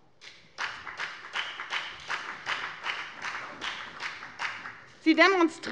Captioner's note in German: Beifall bei der FDP und bei Abgeordneten der CDU